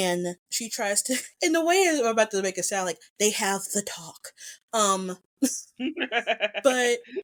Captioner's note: laughs